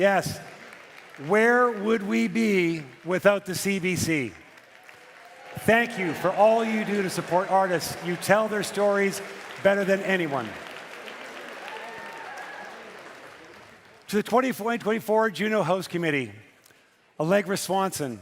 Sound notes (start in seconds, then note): 8.9 cheering and Applause